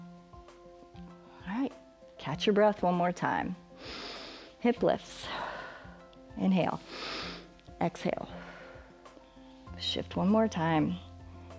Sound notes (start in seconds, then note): 3.8 inhales; 6.8 exhales; 6.8 inhales